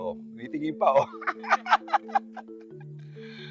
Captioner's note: laughing